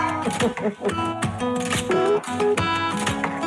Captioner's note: laughs; upbeat music